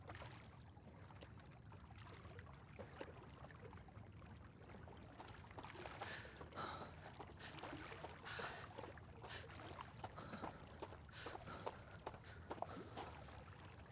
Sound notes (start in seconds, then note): 0.7 insects chirping; 0.7 water lapping